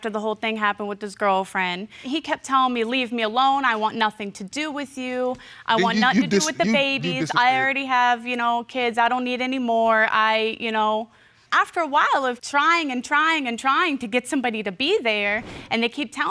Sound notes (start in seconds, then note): 6.1 stuttering